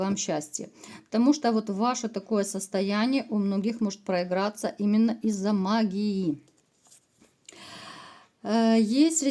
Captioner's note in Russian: тяжело вздыхает